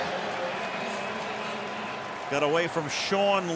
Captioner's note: pa announcement